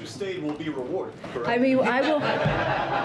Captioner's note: laughter